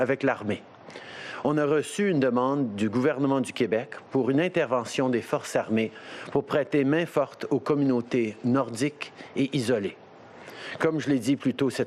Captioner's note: speaking french